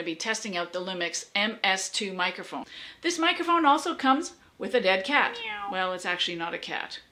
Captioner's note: meow